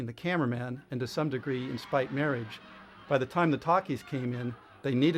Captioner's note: audience laughs